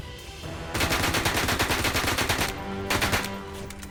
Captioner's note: whispering; gunshots